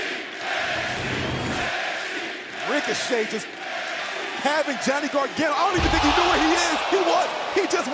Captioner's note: fans chanting